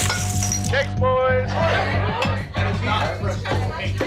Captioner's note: background chatter